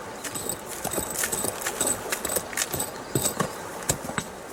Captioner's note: scraping sounds